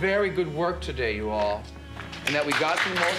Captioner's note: applause